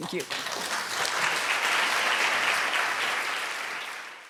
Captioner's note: audience applauding